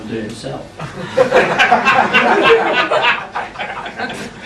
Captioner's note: laughing